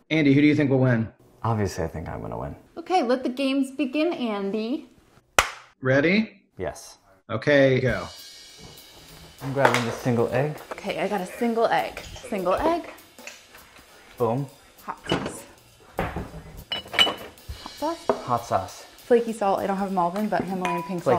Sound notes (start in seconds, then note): 5.4 claps